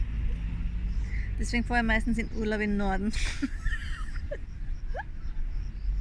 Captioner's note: laughter